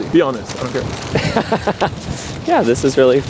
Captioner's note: laughs